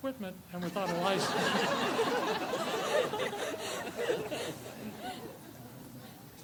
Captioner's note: audience laughs